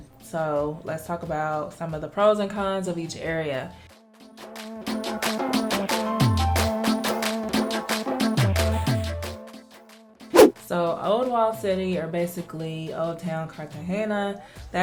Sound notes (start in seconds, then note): 4.4 upbeat clapping music; 10.3 air whooshing